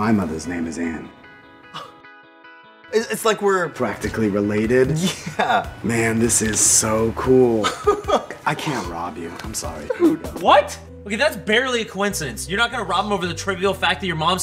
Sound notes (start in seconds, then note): 1.7 exhales; 4.8 laughs; 7.5 laughs